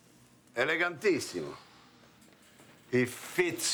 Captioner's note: speaks Italian